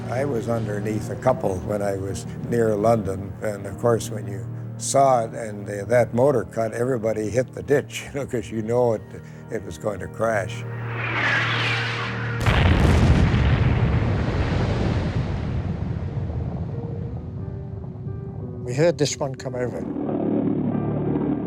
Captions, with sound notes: - I was underneath a couple when I was near London, and of course when you saw it and that motor cut everybody hit the ditch, 'cause we know it was going to crash. (jet engine roaring) (jet thuds) (jet explodes) - We heard this one come over.